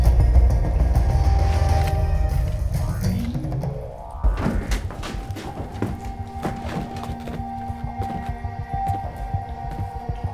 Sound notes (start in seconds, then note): 3.8 frantic bootsteps; 4.0 creaking wood; 6.9 deliberate bootsteps